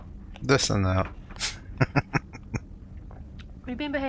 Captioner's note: chuckling